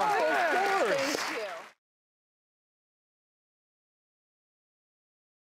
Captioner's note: applause